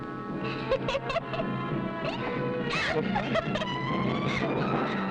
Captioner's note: laughing